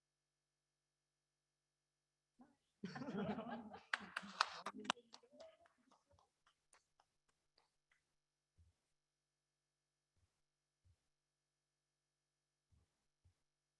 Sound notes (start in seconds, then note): 3.7 applause